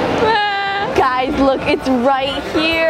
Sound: cries

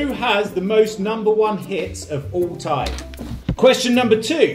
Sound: none

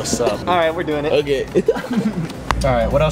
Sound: laughs

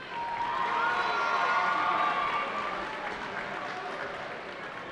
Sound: cheering

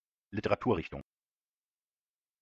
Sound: fast Pronunciation

